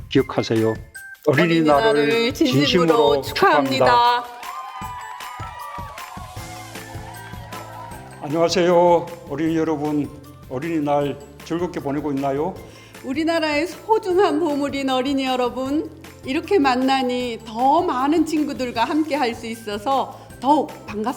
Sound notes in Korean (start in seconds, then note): 3.8 박수 및 환호소리